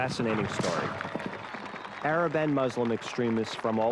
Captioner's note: crowd cheering; crowd whistling